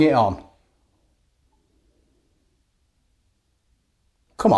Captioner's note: silence